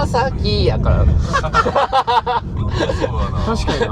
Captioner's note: laughs